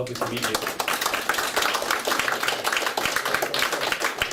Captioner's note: clapping